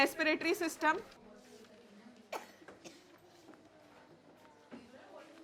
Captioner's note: student chatting